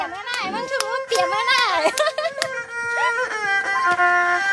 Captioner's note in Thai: ปรบมือ